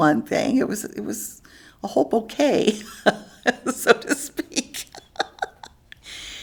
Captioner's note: laughs